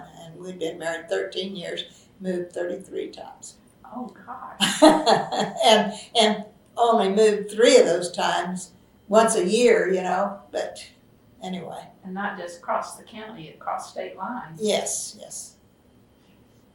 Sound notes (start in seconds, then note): 6.5 laughter